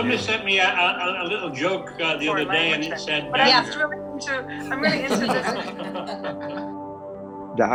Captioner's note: laughter